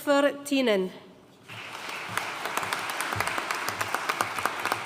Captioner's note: audience applauding